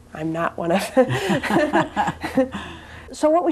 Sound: both laugh

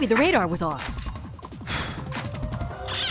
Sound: blowing

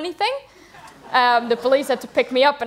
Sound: laughter

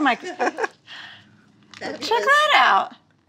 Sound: laughing

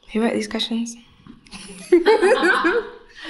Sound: laughing

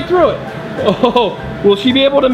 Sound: laughs

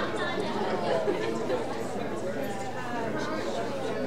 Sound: audience chattering

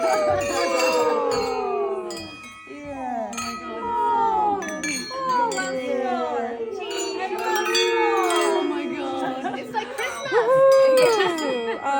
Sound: sound of crystal glasses clinking

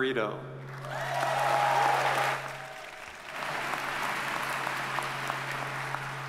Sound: audience cheers and applauds

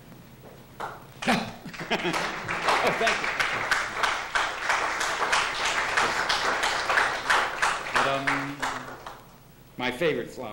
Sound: applause

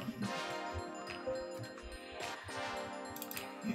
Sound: computer dings

